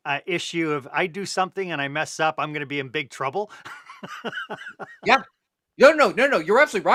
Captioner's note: laughter